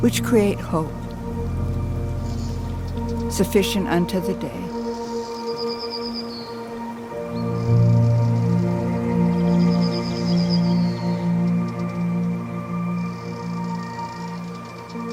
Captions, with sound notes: which create hope, sufficient unto the day. (gentle thoughtful music) (birds chattering)